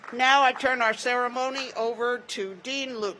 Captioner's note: applause